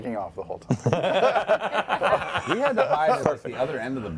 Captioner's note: laughter